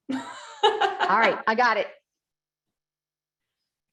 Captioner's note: laughter